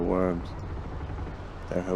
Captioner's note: ship creaks